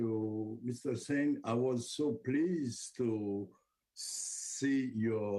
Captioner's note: speaking French